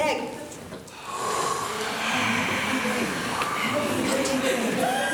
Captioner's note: heavy breathing